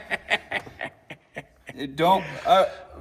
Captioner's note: laughing